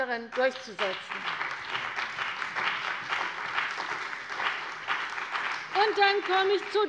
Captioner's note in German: Beifall bei der CDU und dem BÜNDNIS 90/DIE GRÜNEN